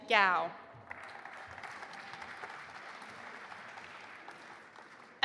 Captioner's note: audience applauding